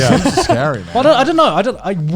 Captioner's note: laughing